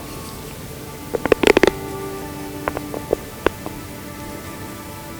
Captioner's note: sound of getting grunt call ready